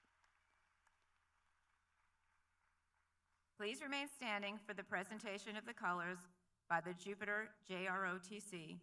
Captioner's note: applause